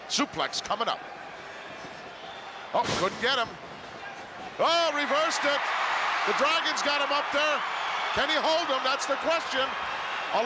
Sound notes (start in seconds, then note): 5.9 crowd cheers